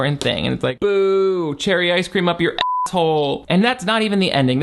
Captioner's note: beep